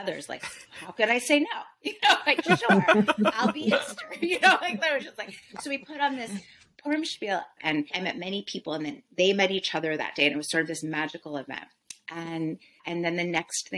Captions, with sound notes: Like, how could I say no? You know, sure! I'll be... [laughter] So we put on this Purim spiel and I met many people and then they met each other that day and it was sort of this magical event and, And then the next thing that